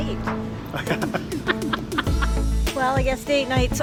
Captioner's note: laughing